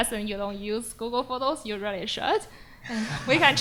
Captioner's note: laughs